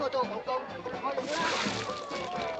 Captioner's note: yammering in Cantonese; splash